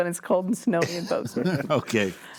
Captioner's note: laughing